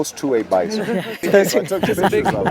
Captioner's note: laughter